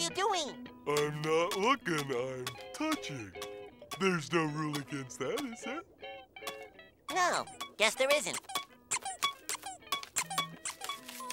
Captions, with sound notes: I'm not looking, I'm touching. There's no rule against that, is there? No, guess there isn't. [squeaking]